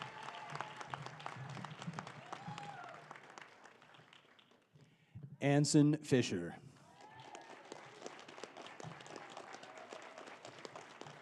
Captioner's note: applause